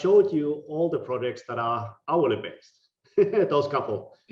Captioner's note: laughing